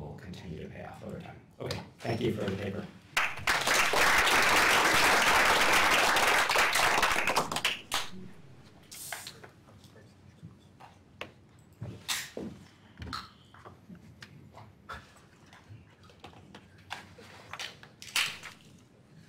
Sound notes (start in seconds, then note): 3.1 applause